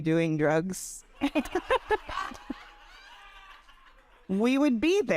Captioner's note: audience laughing